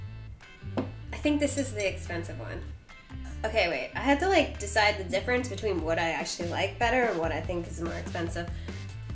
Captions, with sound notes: (taps table) I think this is the expensive one. Okay. Wait. I had to decide the difference between what I actually like better and what I think is more expensive.